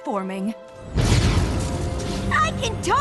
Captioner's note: thunderclap